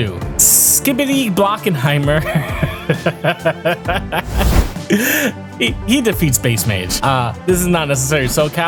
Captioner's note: laugh